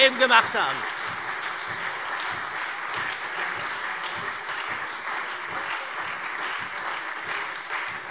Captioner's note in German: Beifall SPD, AfD und Freie Demokraten